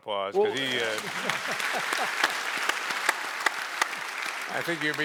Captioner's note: audience applauds